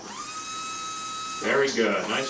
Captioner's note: brush whirring